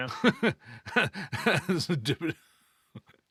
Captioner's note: laughing